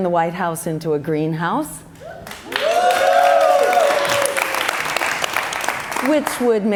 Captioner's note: cheers and applause